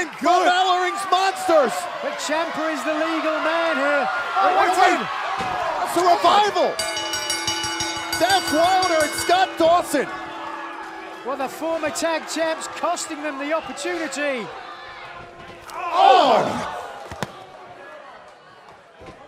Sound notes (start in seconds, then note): 6.2 bell ringing